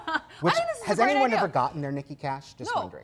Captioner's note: laughs; mumbles